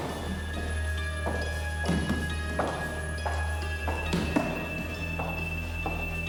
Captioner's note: soft thudding